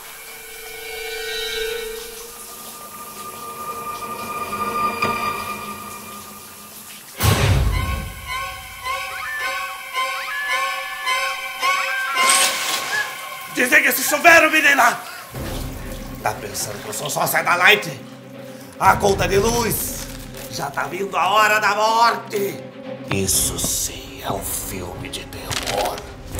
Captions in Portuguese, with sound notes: [música de suspense] [música de terror] [gritos] -Desliga esse chuveiro, menina! Tá pensando que eu sou sócia da Light? A conta de luz já tá vindo a hora da morte! Isso sim é um filme de terror.